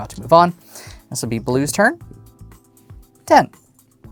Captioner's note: dice rolling